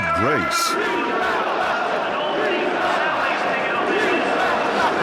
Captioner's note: crowd